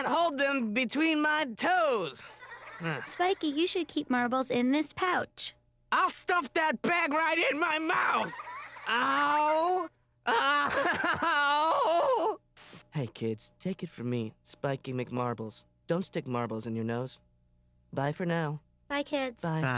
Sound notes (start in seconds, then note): 2.2 kids laugh; 10.3 howling